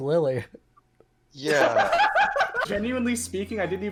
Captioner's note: laughs